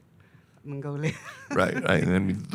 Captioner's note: laughing